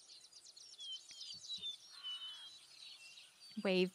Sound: birds chirping

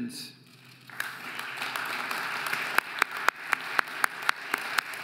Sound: audience applauding

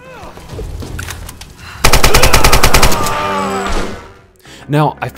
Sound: rattle of Gunfire

